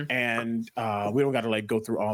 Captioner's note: makes affirmative sound